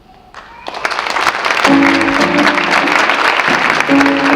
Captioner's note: audience clapping